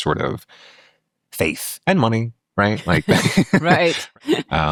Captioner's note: laughing